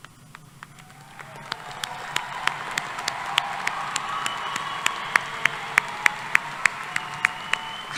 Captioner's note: applause